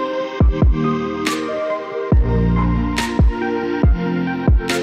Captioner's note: clap